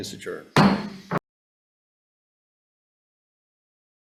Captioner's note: gavel taps